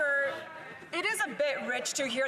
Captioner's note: some Applause